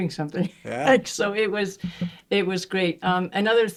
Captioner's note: chuckling